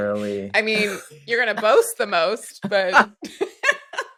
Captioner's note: laughter